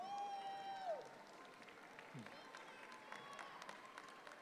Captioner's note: audience claps